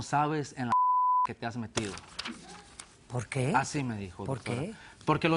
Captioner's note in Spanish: Bip